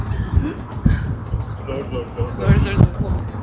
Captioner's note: Turkish